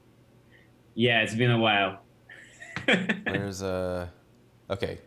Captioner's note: laughs